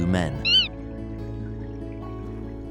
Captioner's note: manatee squeaks